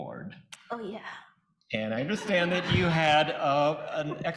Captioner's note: audience laughing